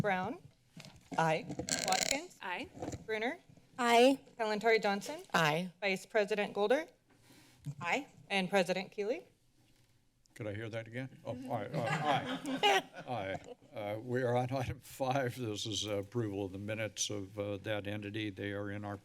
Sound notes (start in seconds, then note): 1.6 microphone sounds; 11.5 laughter; 14.9 chuckles